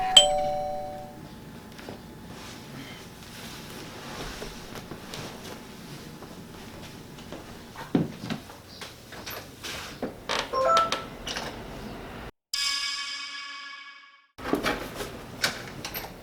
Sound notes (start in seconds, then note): 0.0 doorbell chimes; 10.6 bell chimes